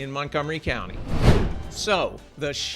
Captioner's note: graphic whooshes